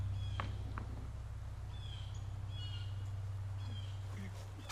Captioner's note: car tire thudding